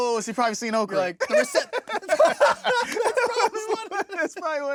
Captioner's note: laughing